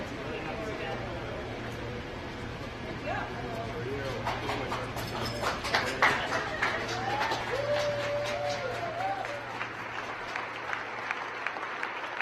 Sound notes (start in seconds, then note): 8.7 cheers; 10.3 applause